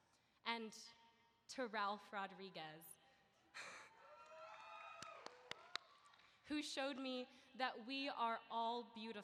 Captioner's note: cheering